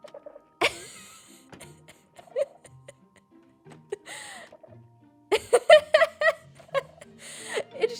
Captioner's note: laughs